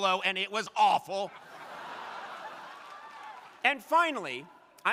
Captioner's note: crowd laughing